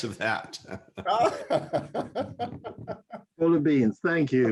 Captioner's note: laughter